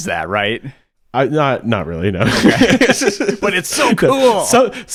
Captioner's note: laughing